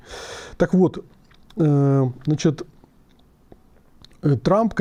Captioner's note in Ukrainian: сопіння